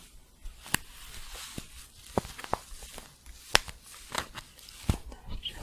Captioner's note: crinkling and scratchy shuffling